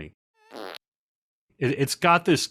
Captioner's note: fart